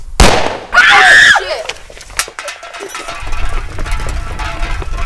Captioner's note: screams